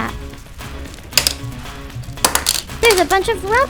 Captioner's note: tiles crackling